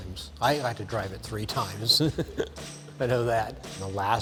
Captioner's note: laughs